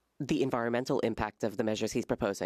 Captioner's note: speaking French